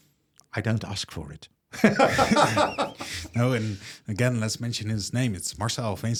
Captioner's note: laughs